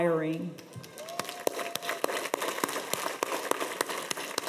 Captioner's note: audience applauds